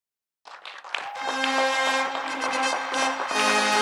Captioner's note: audience applauding; audience cheering; bright band music